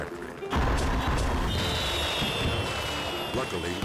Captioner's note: fireworks exploding